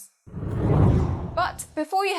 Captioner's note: hard whooshing